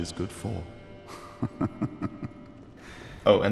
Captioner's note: laughing